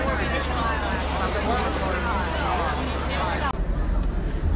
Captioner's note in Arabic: الحشد الثرثرة